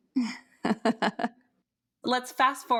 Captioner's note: chuckles